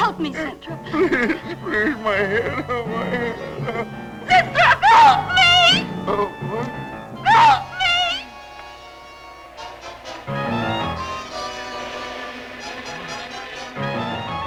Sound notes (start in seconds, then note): 3.1 crying; 8.8 suspenseful music; 12.1 buzzing